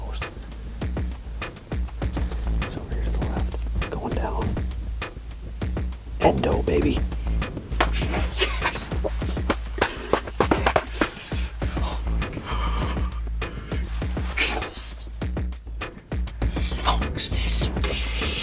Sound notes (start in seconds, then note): 7.5 celebrating whispers